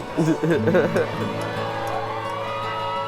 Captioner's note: laughs